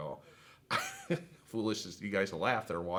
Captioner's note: laughs